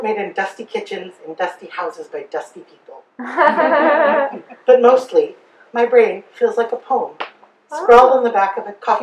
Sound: audience giggles

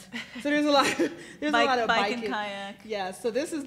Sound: laughs

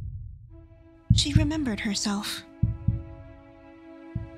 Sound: heartbeat; heartbeat fading

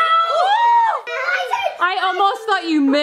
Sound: people cheering

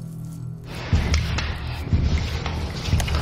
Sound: scraping continues

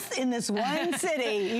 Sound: laughter

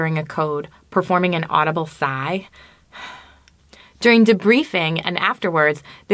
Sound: sighs

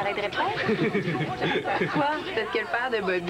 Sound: Rires

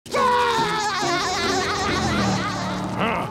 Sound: laughing

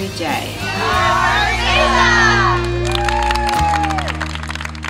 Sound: applause

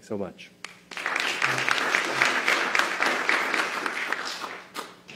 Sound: applause

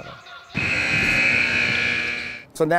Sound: timer buzzes

